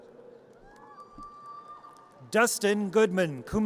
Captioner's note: audience cheers